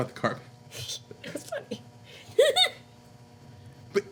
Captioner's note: laughing